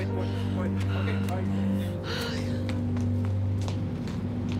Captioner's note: background conversations